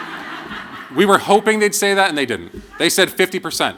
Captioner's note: laughter